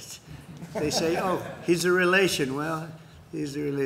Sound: laughter

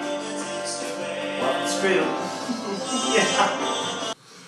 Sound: laughs

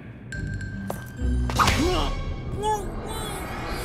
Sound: muffled groaning

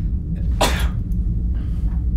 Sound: sneezes

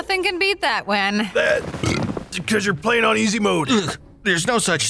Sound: burp

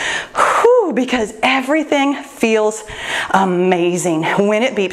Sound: exhales deeply

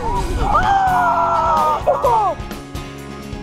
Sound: kid Cheering

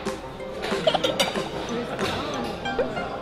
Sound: giggling

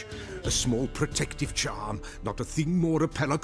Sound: none

